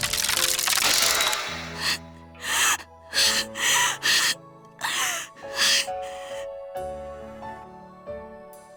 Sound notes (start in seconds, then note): 1.4 strained breathing